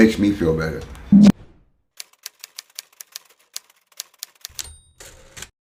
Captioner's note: typewriter keys clanking